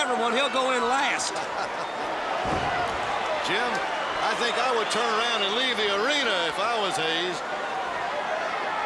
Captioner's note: laugh